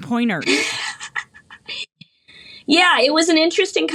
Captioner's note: laughs